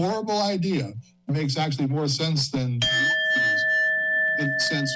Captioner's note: bell rings